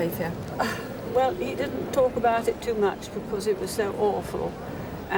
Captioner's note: sighs